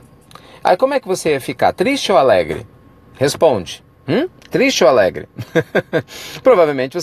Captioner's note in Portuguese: risos